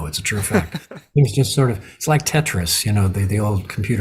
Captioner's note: chuckles